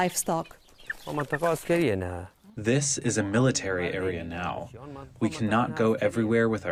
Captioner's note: through translator